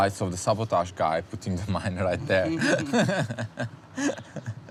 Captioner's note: laughs